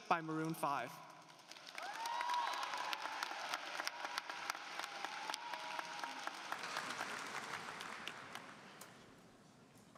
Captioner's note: applause